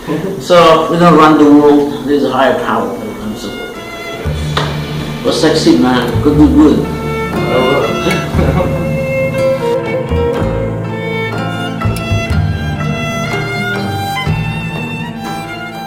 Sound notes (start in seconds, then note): 7.8 laugh